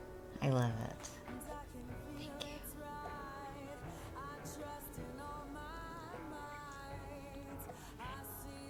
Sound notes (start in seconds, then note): 2.3 whispering